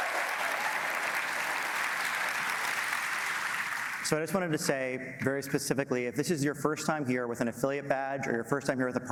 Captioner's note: applause